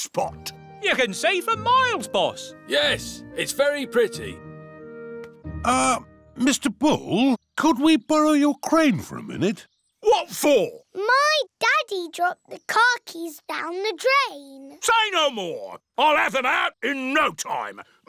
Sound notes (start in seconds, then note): none